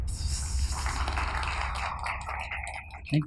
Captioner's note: applause